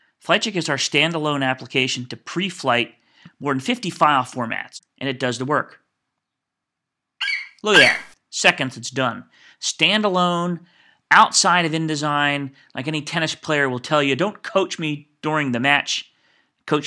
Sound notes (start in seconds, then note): 7.2 FlightCheck eagle screeches